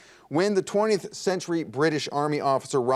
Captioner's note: none